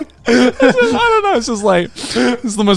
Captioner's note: everyone laughing